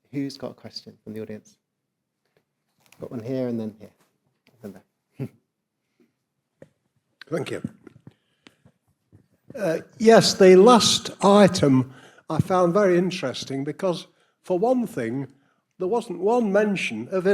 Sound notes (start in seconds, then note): 5.2 chuckles